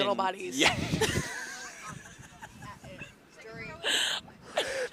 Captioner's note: laughter